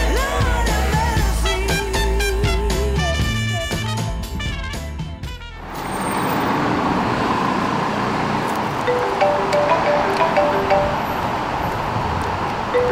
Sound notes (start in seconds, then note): 8.8 ringtone